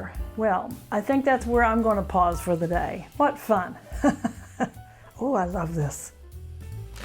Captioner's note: laughter